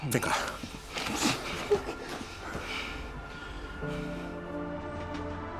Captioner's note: sobbing